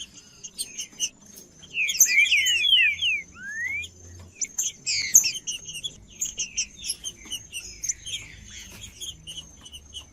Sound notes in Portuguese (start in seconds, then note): 3.2 trinca ferro cantando; 5.2 trinca ferro cantando; 7.2 trinca ferro cantando; 9.2 trinca ferro cantando